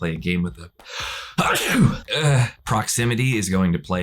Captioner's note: sneezes